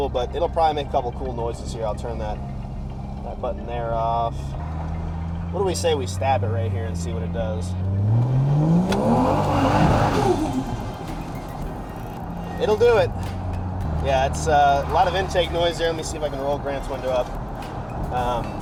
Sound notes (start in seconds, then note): 12.5 engine Revving